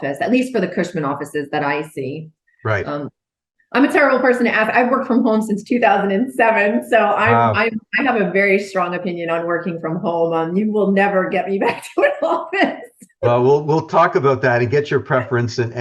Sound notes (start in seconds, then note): 11.6 laughing